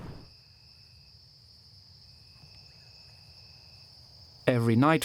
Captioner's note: crickets chirping